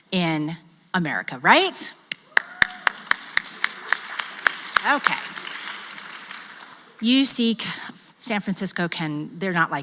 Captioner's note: applause